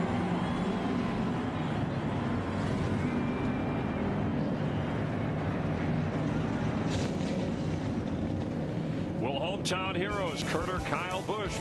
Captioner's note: engines roar